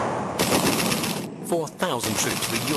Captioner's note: guns blasting